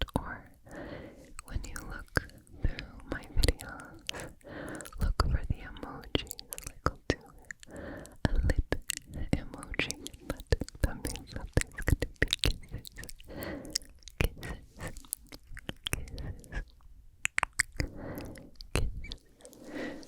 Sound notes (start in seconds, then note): 17.2 kisses